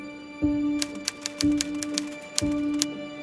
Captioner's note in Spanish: sonido máquina de escribir